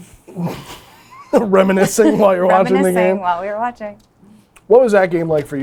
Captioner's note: laughs